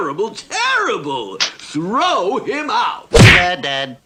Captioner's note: splat!